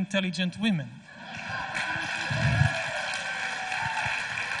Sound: audience laughs

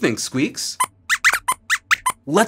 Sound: squeaks squeaks

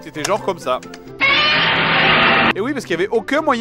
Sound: Godzilla yell

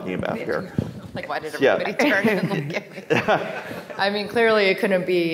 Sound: faintly speaking

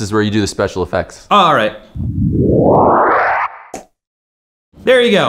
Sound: soft whooshing

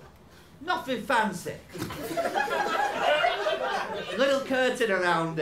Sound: laughter

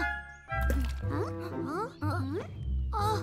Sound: water splashes

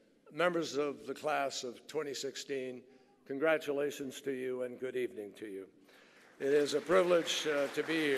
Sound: applause

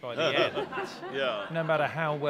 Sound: laughing

